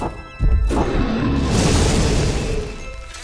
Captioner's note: dragon roars